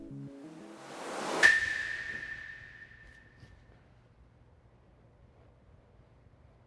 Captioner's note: gentle funky music continues; transition whooshes; wooden stick clinks